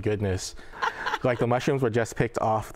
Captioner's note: laughs